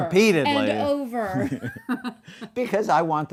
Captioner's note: laughing